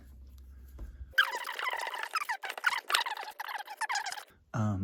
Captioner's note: fast forward sounds